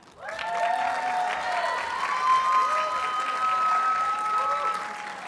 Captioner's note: audience cheers and applauds